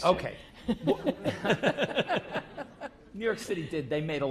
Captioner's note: laugh